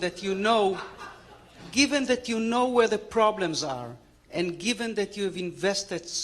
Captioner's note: laughter